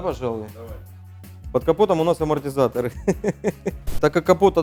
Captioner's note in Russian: смеётся